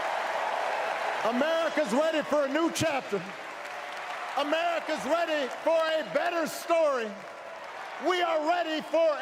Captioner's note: cheers